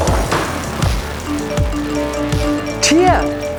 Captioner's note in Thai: เสียงข้อความแจ้งเตือนเข้าหลายเครื่อง